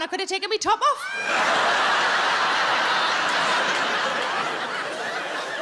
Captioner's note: audience laughing